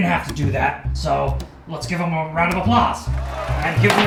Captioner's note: sounds of applause